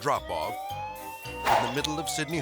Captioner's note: sirens blaring